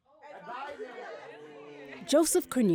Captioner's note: students chattering